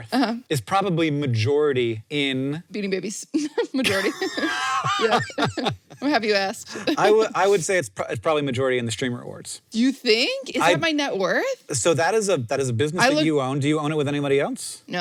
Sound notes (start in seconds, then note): 3.8 laughs